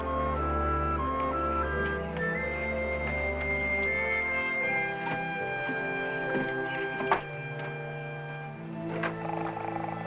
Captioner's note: bell